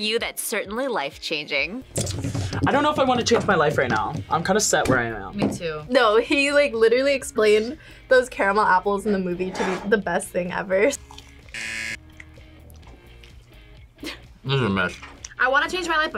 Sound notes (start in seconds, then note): 11.5 buzzer